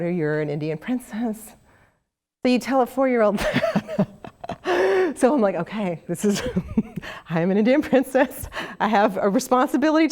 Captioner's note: laugh